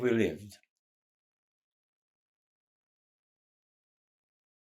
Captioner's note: pauses 6 seconds